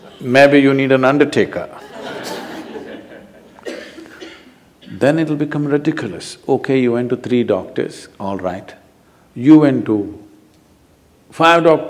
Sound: laughter

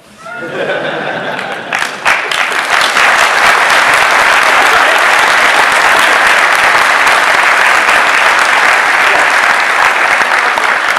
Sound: audience bursts into applause

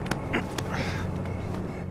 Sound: slapping

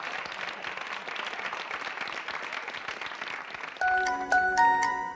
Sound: applause

